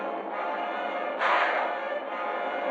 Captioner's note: gunshot